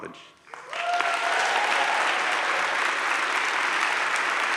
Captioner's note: audience cheers